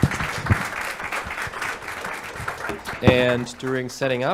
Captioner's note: applause